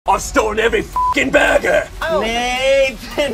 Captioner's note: beep